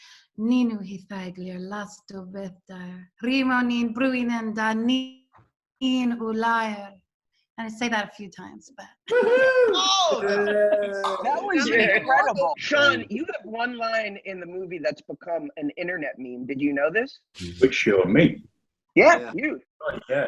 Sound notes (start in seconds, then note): 9.1 group cheers